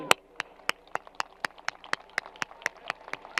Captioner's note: applause